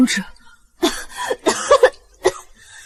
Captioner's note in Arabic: سعال